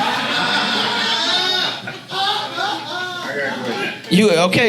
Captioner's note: audience laughs